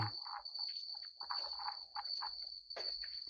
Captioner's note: crickets chirping continues